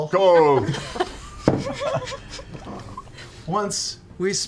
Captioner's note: laughter